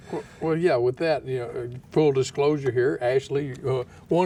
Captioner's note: laughing